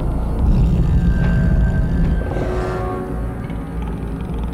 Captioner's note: Growling Continues